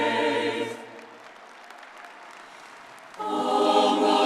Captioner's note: audience applauding